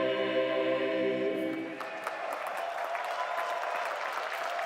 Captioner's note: applause